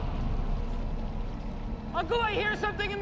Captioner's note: distant whooshing